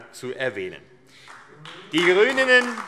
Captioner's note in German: Beifall AfD